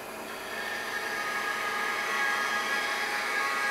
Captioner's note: whirring cutting noise